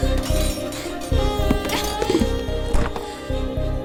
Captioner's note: screams; frustrated